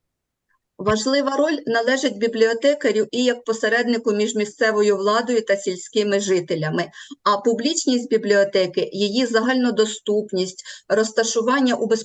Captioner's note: foreign Language